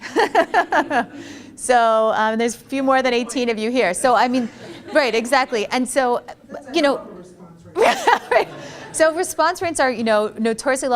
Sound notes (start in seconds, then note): 0.0 laughter; 7.7 laughs